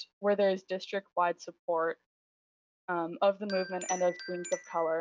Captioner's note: chime